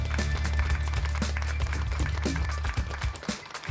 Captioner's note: applause